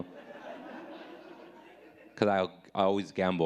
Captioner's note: audience laughing